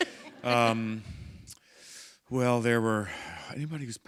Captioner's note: chuckle